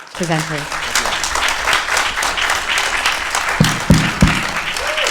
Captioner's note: applause